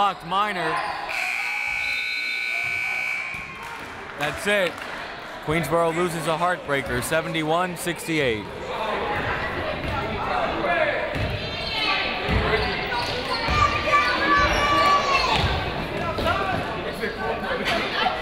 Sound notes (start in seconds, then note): 1.1 buzzer